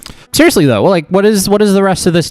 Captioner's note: laughs